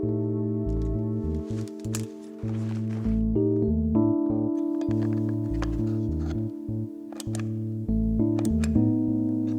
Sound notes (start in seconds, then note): 4.6 batteries clattering; 6.7 light clicking